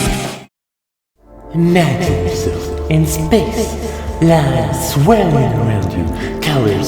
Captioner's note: heavy reverb